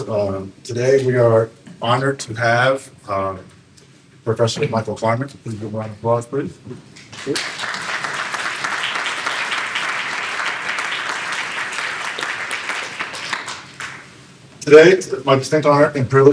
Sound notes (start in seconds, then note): 7.1 applause